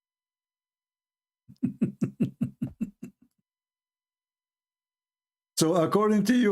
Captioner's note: Ketawa